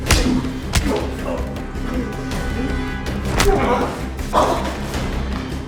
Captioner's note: painful grunting